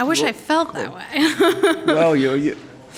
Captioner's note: laughs